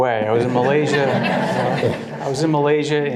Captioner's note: all laughing